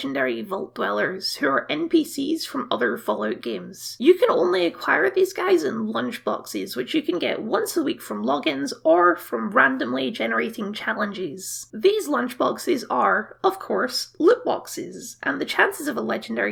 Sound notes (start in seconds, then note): none